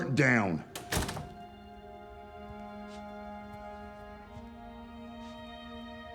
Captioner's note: solemn music; door rattles